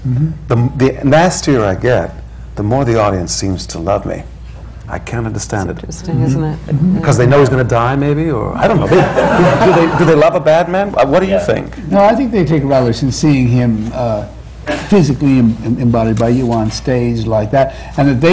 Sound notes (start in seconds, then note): 8.6 laughter